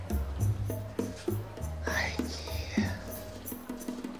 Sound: whispers

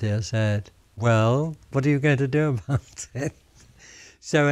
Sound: laughs

